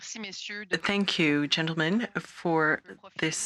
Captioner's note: speaking French